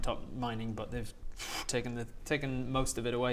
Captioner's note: pwoof